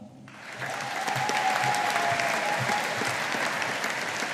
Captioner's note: audience applauding